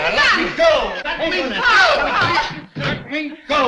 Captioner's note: arguing